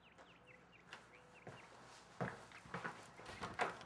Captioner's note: birds chirping